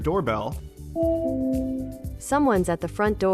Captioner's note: doorbell ringing